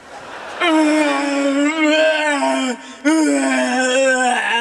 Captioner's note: groaning